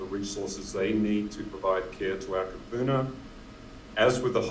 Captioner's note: speaking in foreign language